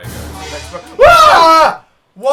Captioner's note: scream